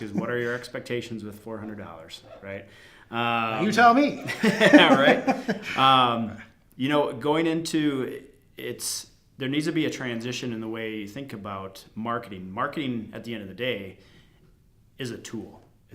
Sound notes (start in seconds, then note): 3.6 laughing